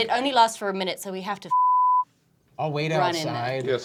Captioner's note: beep